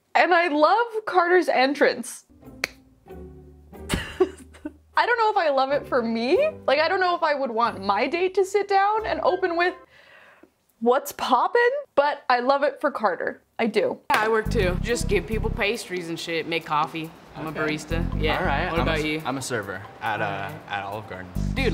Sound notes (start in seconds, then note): 2.6 hands clapping; 3.8 laughing